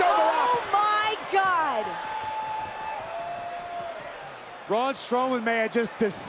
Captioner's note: applause